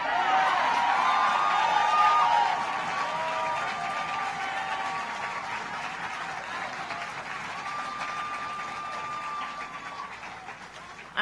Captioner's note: applause